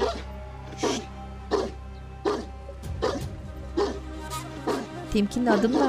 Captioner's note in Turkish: Köpek havlama sesi; Köpek havlama sesi